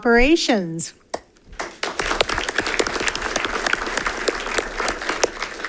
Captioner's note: audience applauding